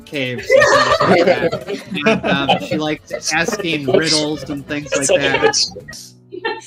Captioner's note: laughing